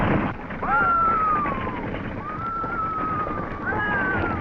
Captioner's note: Betty screaming